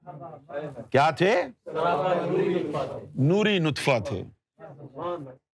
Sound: audience repeats

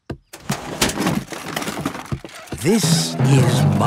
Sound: clattering

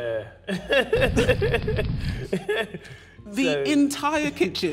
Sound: Mo laughing, flames burning

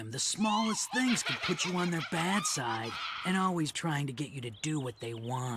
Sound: slight chuckle

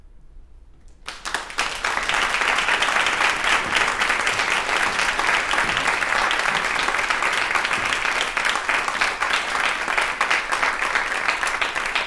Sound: applause

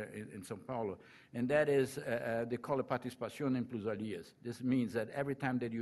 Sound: foreign language

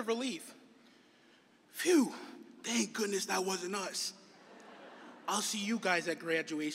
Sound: laughter

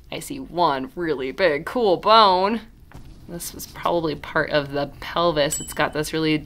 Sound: ding

